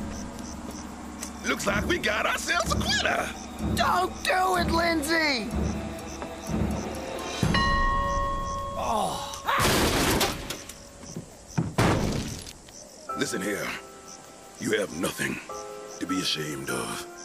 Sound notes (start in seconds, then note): 7.4 Lindsay Ringing Bell; 9.6 thudding